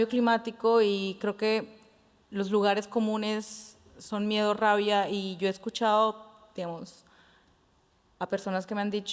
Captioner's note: Spanish